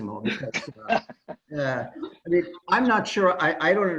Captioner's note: laughter